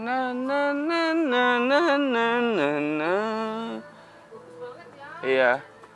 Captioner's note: humming joyfully